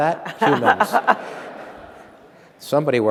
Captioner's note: laughter